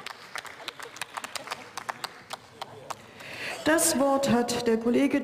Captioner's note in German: Beifall